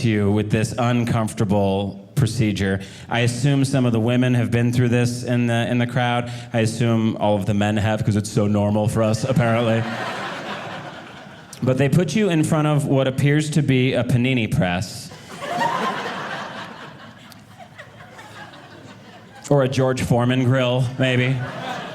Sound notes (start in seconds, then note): 9.2 audience laughing; 15.1 audience laughing